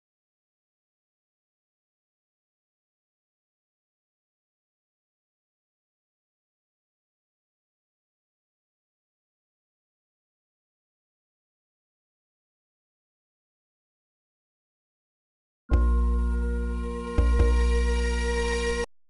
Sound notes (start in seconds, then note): 0.1 silence; 8.0 silence; 15.7 16-bit music plays